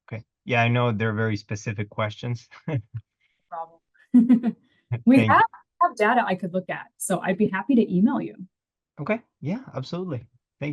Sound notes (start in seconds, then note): 2.6 laughter